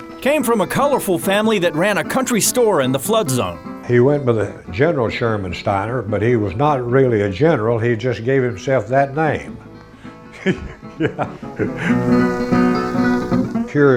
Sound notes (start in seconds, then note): 10.3 laughing; 10.3 laughs; 11.9 upbeat country music